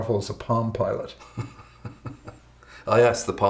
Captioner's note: chuckles